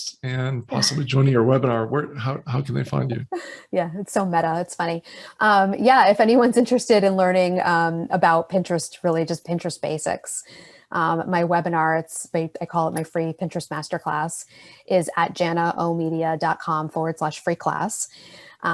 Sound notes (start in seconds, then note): 3.5 laughing